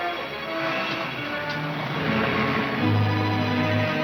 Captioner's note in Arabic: تشغيل السيارة; موسيقى الأوركسترا المثيرة